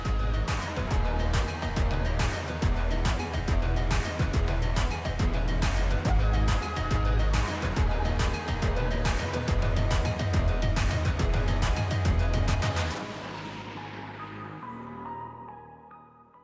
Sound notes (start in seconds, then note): 3.6 applause; 4.3 lively music